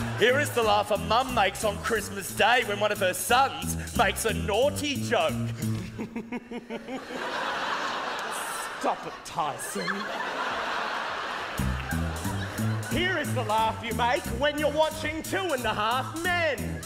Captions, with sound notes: Here is the laugh a mum makes on Christmas Day when one of her sons makes a naughty joke [Chuckles] Stop it Tyson Here is the laugh you make when you're watching Two and a Half Men